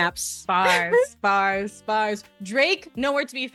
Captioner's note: laughs